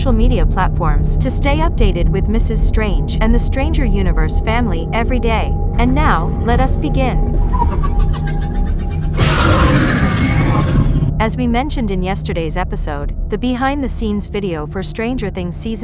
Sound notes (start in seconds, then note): 7.2 demogorgon screams